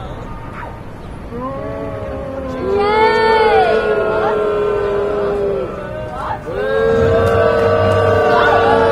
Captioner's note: audience boos